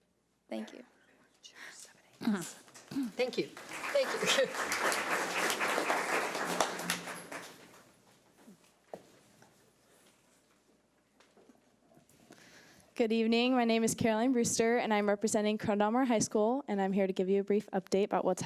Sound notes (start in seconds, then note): 5.2 audience applause